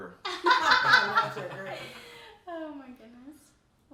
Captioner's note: all laugh